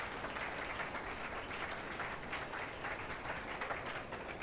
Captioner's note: attendees applauding